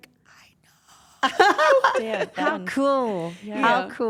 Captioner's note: laugh